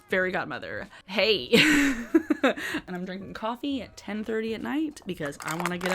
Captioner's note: laughs